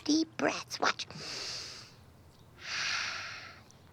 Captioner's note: inhales, exhales